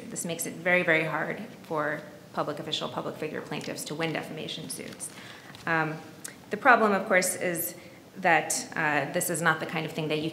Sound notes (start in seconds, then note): none